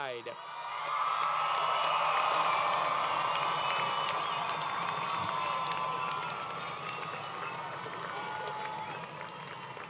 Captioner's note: crowd Cheering